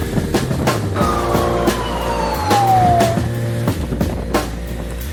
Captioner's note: sirens